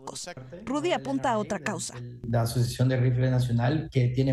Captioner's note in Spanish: HABLAN EN INGLéS